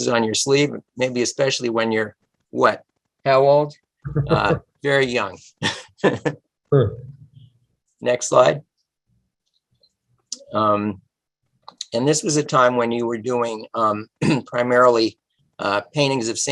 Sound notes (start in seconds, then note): 5.6 laughter